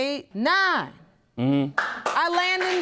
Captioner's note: audience applauding